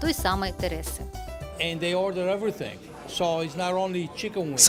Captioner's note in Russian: английская речь